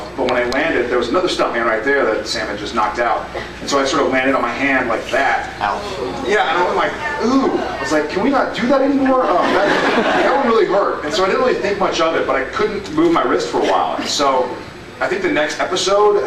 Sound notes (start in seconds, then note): 9.0 laughs